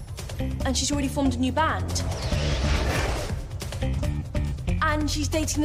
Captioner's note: magical buzzing sound